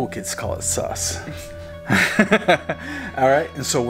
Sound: chuckles

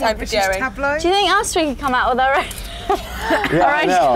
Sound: laughs

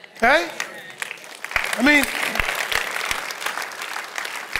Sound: audience applauding

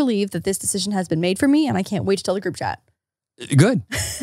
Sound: laughs

